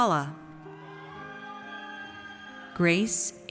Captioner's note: audience cheers